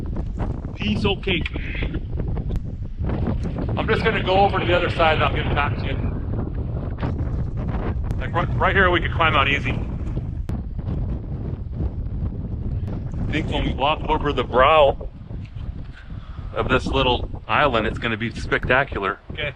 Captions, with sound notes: Piece O cake. I'm just gonna go over to the other side, and I'll get back to you. Like, right here, we can climb out easy. [Wind blowing] I think when we walk over the brow of this little island, it's gonna be spectacular. Okay.